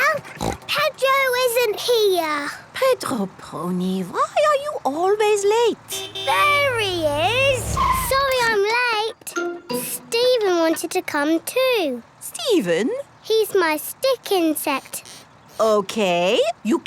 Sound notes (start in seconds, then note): 0.2 snort; 5.9 honking